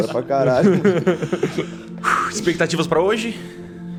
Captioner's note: Guaxi aughs; sighs